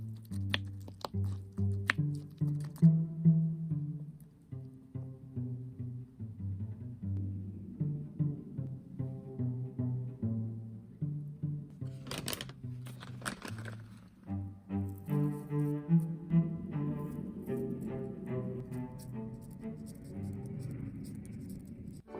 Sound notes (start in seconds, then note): 11.8 rustling